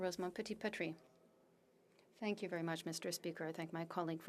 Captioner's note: speaking French